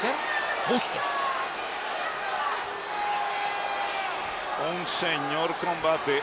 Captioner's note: applause